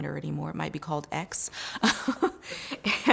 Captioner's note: laughs